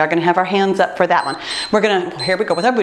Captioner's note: timer beeps